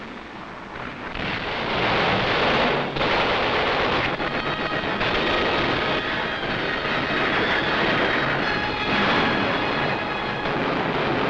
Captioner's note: explosions